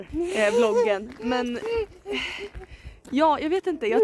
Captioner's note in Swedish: skrattar